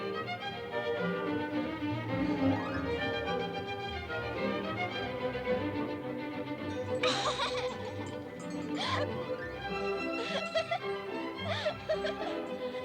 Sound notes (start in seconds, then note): 0.2 light orchestral music continues; 7.2 both laughing